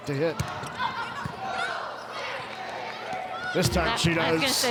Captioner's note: players shouting indistinctly; ball thumping